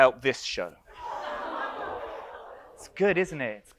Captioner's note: audience laughs and groans